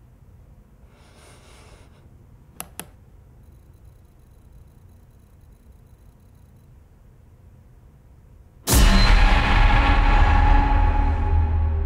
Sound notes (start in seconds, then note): 2.6 mouse clicking; 8.6 dramatic whooshing